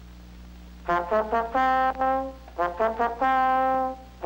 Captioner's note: horn blowing